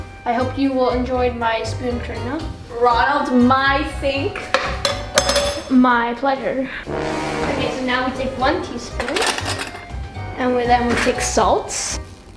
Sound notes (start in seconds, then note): 4.6 teaspoon clanking; 6.6 comical music